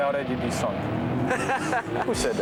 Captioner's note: laughs